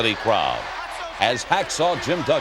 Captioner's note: audience chanting